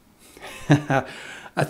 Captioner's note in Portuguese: risadas